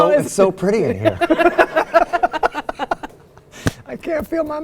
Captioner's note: laugh